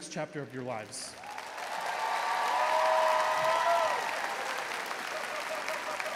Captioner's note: audience cheering and applauding